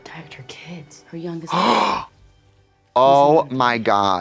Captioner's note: Trixie puffs